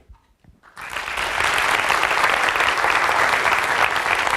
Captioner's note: applause